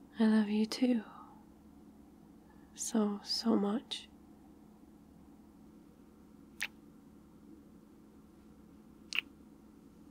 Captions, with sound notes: I love you too so so much *kiss* *kiss*